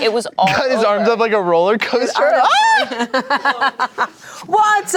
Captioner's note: laughs; screams